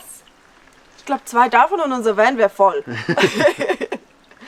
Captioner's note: laughs